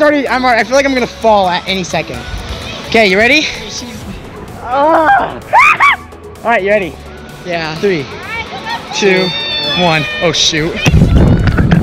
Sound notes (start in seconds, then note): 3.4 screams; 11.5 water splashing